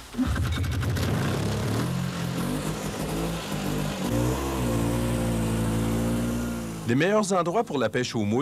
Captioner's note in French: bruit du moteur